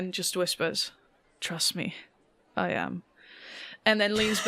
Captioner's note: laughs